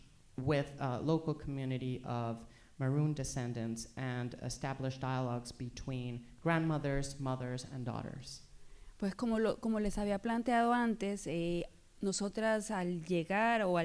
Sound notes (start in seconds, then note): 8.7 speaking spanish